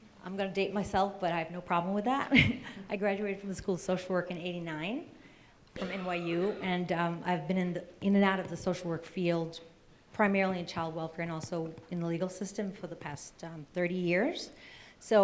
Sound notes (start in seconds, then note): 3.2 laughs